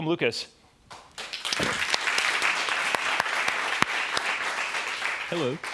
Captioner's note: applause